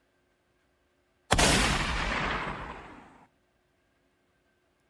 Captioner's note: gunshot